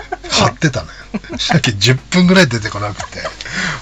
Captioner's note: laughs